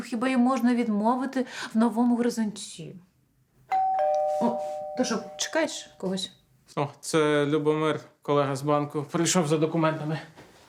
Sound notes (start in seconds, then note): 3.7 doorbell